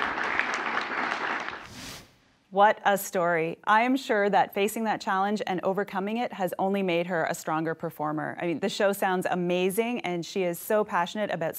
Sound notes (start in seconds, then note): 0.0 applause